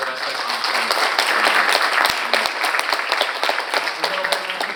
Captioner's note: audience applauding